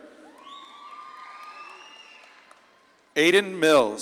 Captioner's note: audience claps and cheers